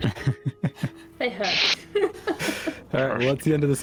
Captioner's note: sympathy laughter